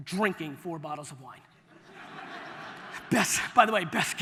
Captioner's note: audience laughter